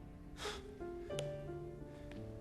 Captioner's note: inhales sharply